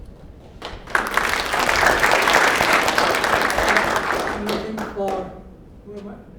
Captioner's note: applause